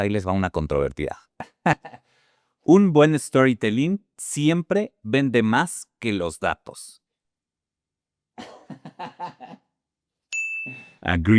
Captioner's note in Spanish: risas